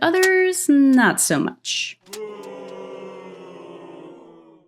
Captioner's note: crowd boos